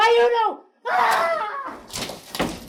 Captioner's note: high-pitched scream; big crash and items falling loudly